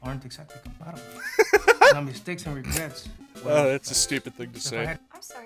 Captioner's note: laughter